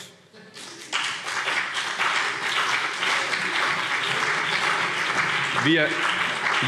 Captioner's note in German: Beifall CDU und BÜNDNIS 90/DIE GRÜNEN